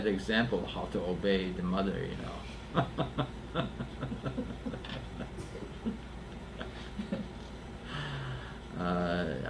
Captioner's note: laughter